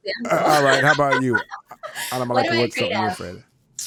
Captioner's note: all laughing